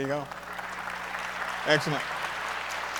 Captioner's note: audience applauds